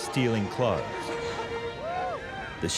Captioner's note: people cheering